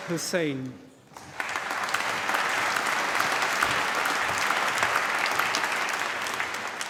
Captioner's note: applause